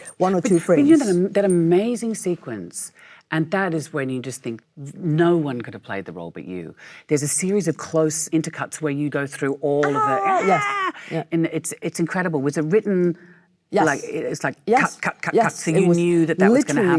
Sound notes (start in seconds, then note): 10.8 Michelle shouting